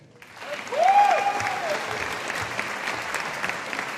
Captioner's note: audience applauding